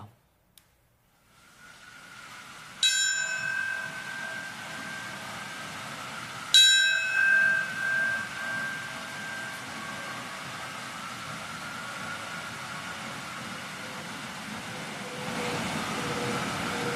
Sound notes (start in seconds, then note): 10.5 bell tolling